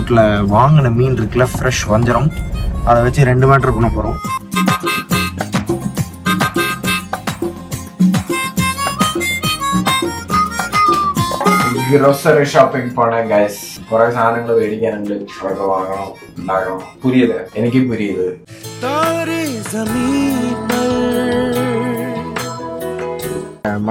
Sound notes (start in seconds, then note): 13.9 gibberish in Malayalam